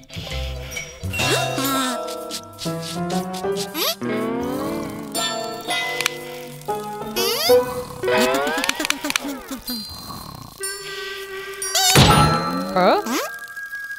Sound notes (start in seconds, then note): 9.1 sighs impatiently; 12.0 boom